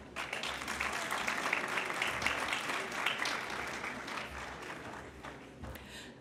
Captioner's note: applause